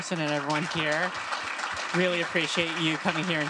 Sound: crowd applauding

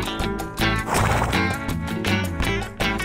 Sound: horse nickers

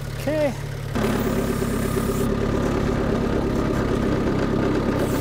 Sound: motor rumbling

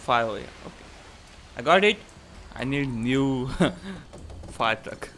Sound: chuckles

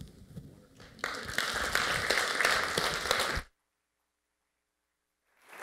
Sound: applause

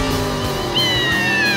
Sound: meowing

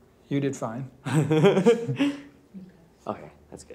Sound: laughs

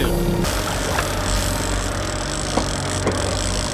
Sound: reel clicking in

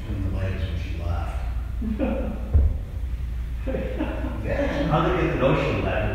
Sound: laughing

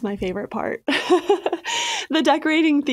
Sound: chuckles

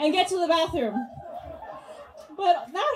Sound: audience laughs

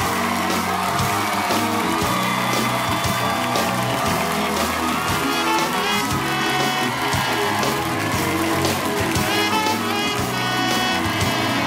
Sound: cheers and applause

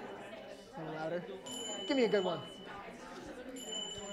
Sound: bells

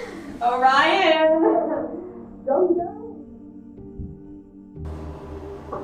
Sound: Constance is muffled

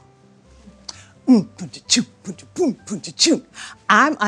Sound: beatboxes

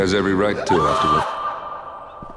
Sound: 47 screams

